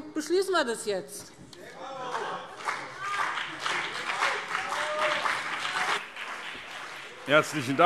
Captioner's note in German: Anhaltender Beifall BÜNDNIS 90/DIE GRÜNEN und CDU